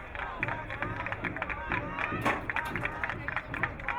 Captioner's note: crowd clapping